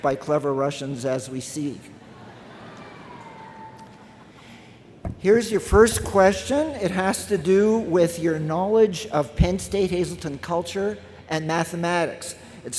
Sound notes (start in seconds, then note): 2.0 laughter from crowd